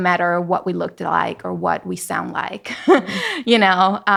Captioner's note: laughing